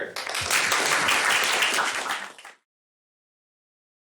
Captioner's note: applause